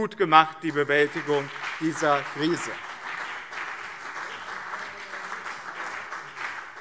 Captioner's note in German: Beifall BÜNDNIS 90/DIE GRÜNEN und CDU